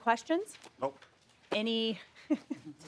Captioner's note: laughter